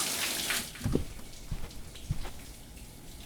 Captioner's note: footsteps on carpet